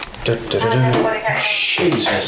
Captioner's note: walkie talkie